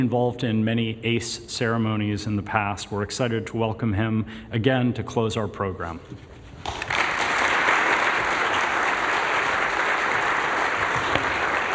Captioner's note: applause